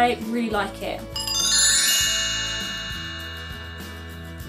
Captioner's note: bell transition sound effect